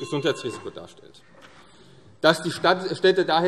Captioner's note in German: Zurufe AfD - Glockenzeichen